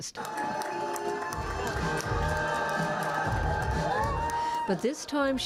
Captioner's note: cheering, applause